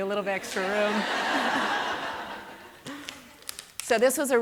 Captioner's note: laughter